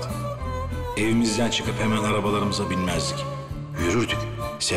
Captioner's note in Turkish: dış ses